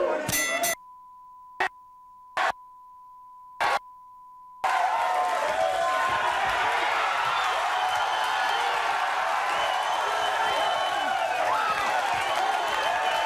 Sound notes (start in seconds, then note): 0.3 bell dinging; 0.3 beep; 4.6 audience cheering